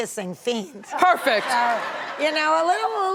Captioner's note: audience laughs